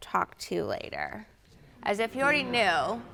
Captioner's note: audience murmuring